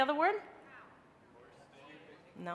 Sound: crowd

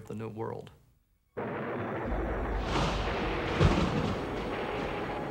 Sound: thunder

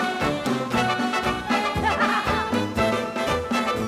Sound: both laugh

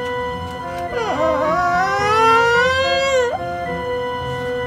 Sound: groans

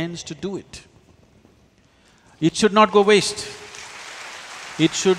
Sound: applause

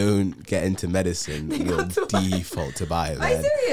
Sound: laughing

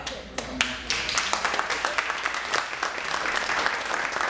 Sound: applause

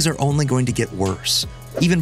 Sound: whoosh

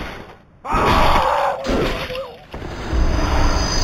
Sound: screaming

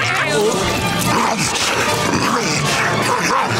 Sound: growling

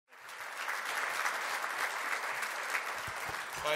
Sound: applause

